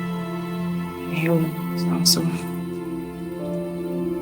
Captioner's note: whispers